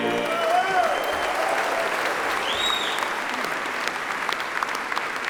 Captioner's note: attendees cheer and applaud